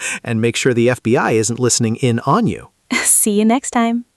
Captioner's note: laughs; laughs